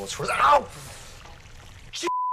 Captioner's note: sucking in air